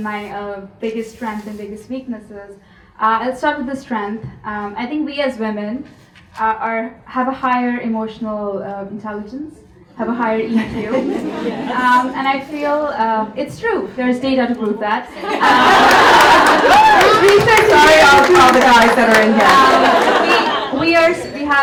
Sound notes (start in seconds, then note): 15.1 audience laughs